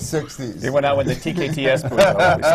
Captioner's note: laughs